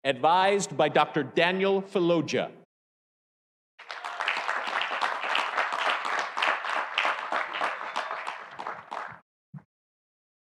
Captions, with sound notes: advised by Dr. Daniel Fologea. (audience applauding)